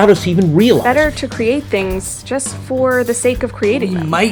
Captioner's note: podcast Voice